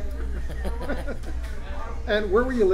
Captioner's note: laughs